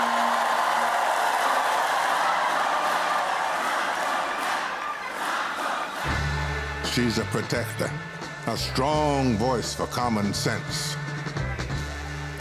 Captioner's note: applause; cheers and applause